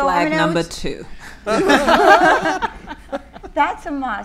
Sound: all laughing

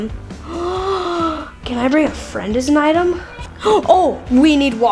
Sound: gasps

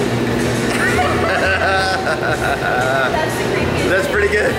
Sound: group laughs

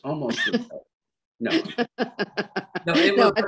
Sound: Ina laughs

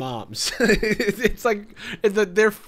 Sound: laughs

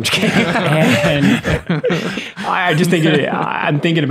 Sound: everyone laughs

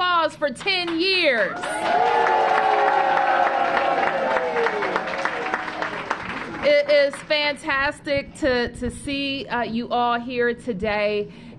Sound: cheers and applause

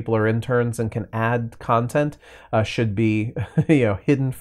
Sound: laughs

